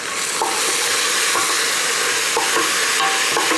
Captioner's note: sizzling